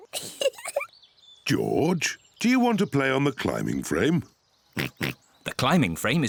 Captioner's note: giggles; oinks